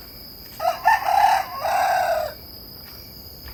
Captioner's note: rooster cawing; rooster; rooster cawing